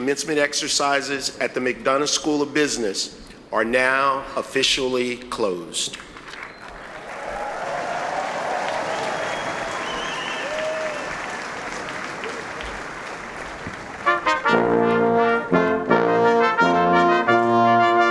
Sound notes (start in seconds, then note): 6.2 audience applauding; 13.3 solemn instrumental music